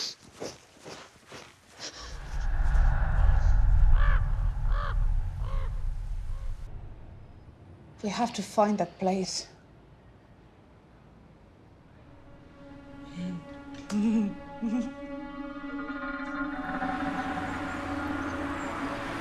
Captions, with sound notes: WE HAVE TO FIND THAT PLACE. ( LAUGHS )